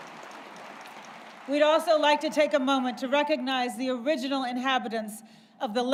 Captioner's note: applause